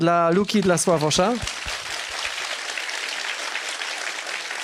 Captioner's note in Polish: oklaski